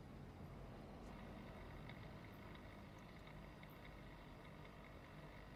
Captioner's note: aquarium pump rumbles